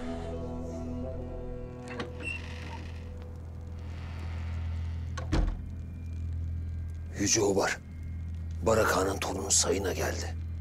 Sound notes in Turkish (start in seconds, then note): 1.8 Kapı açılma sesi; 4.0 Kapı kapanma sesi